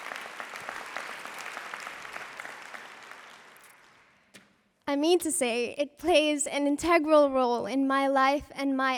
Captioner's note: applause